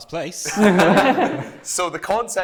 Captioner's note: laughter